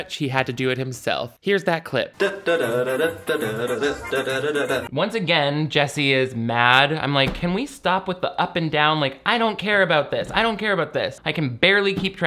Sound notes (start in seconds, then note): 2.2 playful vocalizing; 2.2 upbeat Italian music